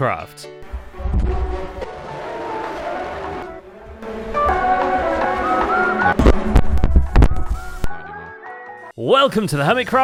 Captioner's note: distorted screaming